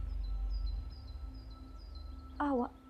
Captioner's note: birds chirping